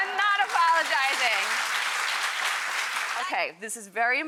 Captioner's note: audience clapping